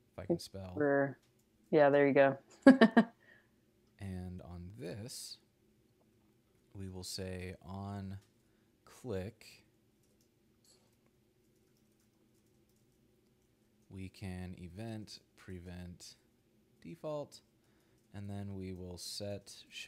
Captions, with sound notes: If I can spell. - Yeah, there you go. (laughs) - And on this, we will say onClick, we can event.preventDefault and then we will setShowWidget to true.